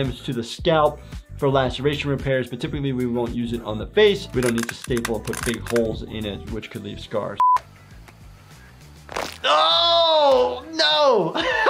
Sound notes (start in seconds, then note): 9.0 bone cracking